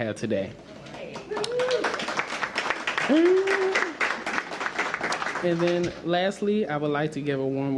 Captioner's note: applause